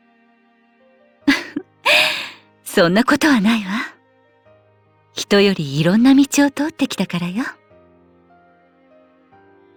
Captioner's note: laugh